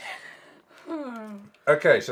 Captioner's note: sighs